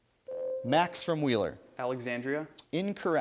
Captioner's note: ding